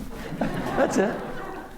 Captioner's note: laughter